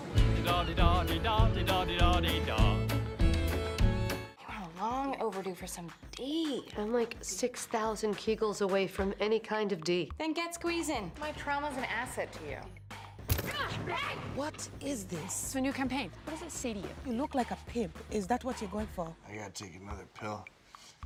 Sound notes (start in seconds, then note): 13.8 thump